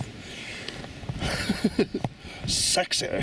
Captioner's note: laughs